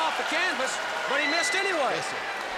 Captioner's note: crowd cheering